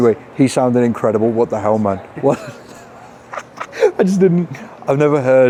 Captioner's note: laughs